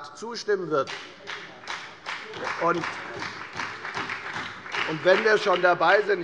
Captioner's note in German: Beifall bei der FDP und bei Abgeordneten der SPD